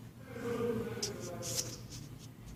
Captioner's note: somebody talked in Ukrainian language